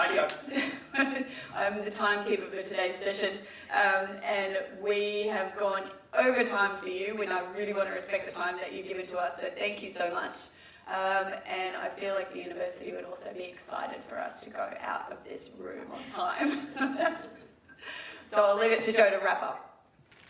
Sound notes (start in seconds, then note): 16.3 laughs